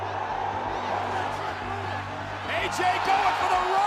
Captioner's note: crowd roaring